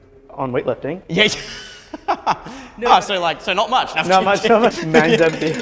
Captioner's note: laughs